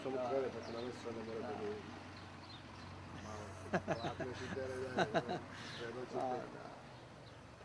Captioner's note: laughter